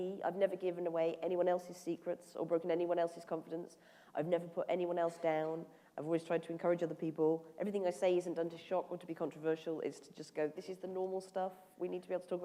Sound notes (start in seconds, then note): none